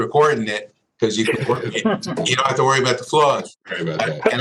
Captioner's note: laughter